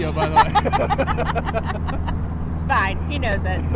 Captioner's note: both laughing